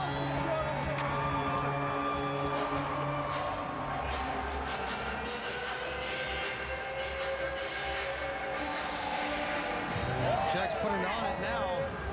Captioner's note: crowd Reacts; horn